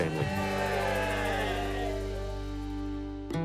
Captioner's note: all cheer